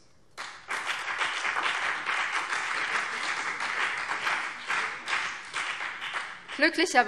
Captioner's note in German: Beifall BÜNDNIS 90/DIE GRÜNEN